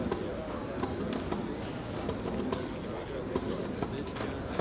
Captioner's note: indistinct crowd chatter